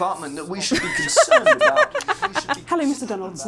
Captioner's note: laughs